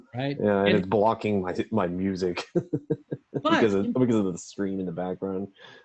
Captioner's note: laughs